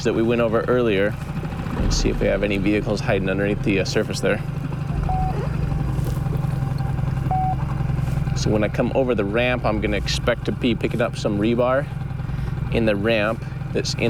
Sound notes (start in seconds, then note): 4.6 magnetometer beeps; 4.9 zipper buzzes; 7.3 magnetometer beeps